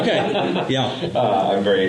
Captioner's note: laughter